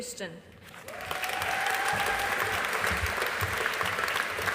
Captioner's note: audience applauding